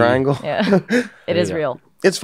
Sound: laughing

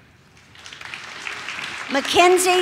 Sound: audience claps

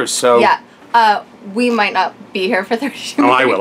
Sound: laughs

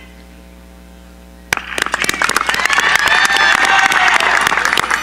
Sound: cheering

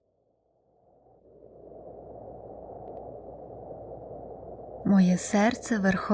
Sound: sound of wind

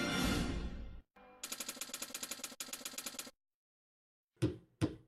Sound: typewriter keys clicking

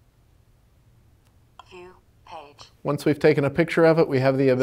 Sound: computer voice: View page

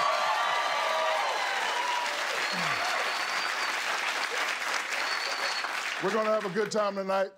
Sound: cheers and applause

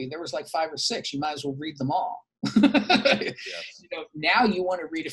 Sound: laughs

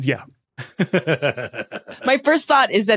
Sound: laughs

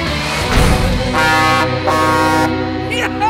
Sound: truck horn honking

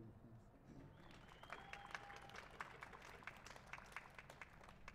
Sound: cheers and applause

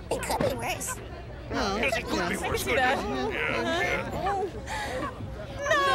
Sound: all agreeing

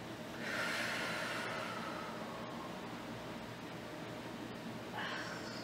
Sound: exhaling deeply from pain

